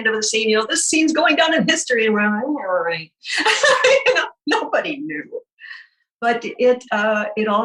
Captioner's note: laughing